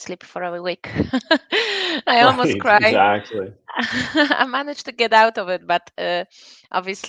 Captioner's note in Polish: śmiech